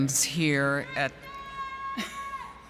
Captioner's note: yell From Audience; laughing